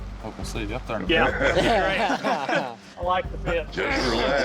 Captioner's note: laughter